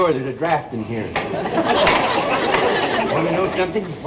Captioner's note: audience laughter